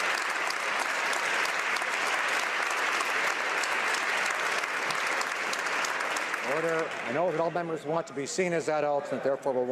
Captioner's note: some Applause